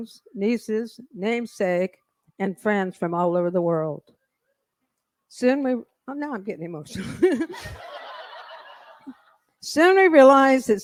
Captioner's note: laughter